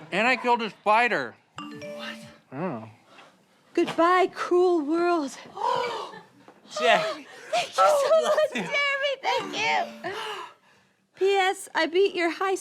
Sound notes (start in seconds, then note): 1.6 phone vibrates; 9.4 phone vibrates